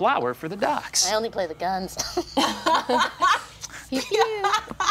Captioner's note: group laughing